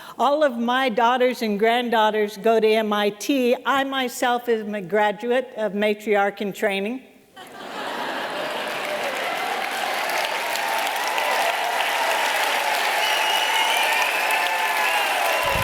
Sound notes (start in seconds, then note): 7.3 laughter; 8.4 applause